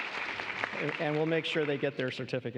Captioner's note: applause